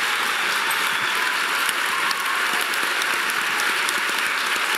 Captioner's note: audience applauding loudly